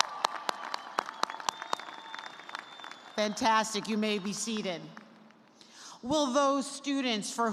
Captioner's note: cheers and applause